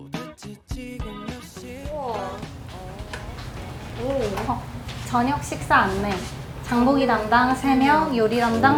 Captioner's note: lyrics humming